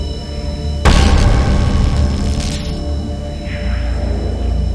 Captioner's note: static rumbling